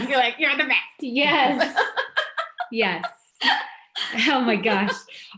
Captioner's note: laughs